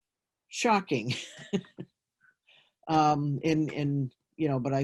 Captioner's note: chuckles